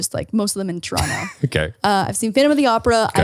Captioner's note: laughs